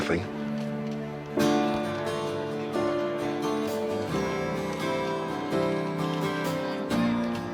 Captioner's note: inspiring music; protestors chattering